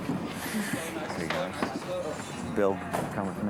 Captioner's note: chatter